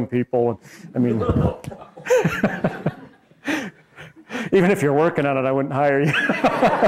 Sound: laughs; laughing

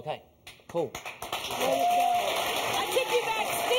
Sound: audience applauding

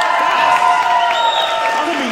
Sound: audience cheering

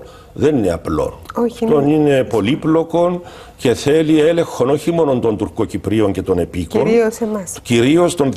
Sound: Turkish

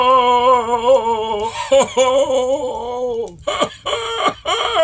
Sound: Santa sobbing

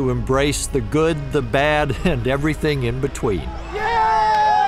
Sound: cheering

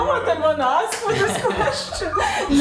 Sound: laughs

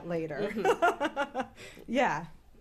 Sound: laughs

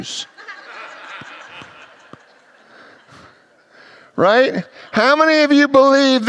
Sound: congregants laugh

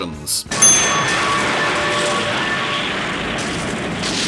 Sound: loud explosion

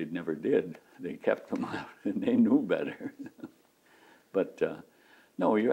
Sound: laughs

